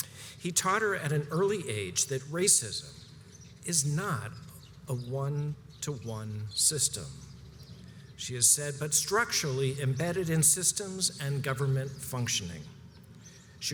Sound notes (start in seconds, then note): none